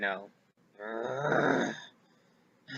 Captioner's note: groans; sigh